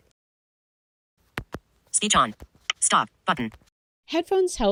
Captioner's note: phone clicks